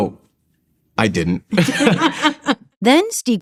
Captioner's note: laughter